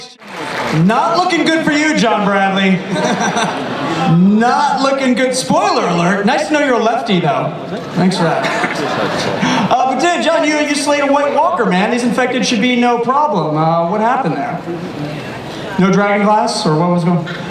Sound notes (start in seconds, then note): 2.8 laughter